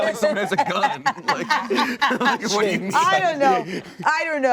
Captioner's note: laughing